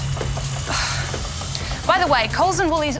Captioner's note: sighs